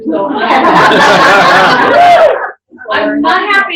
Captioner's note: laughter